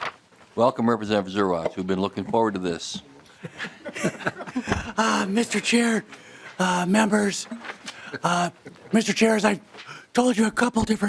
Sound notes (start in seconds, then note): 7.9 laughter